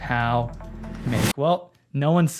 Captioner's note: wind swooshes